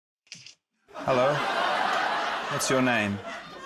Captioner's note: laughter